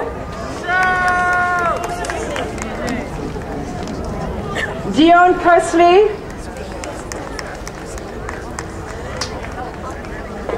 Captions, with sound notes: (crowd cheering) Dion Persney. (crowd applauding)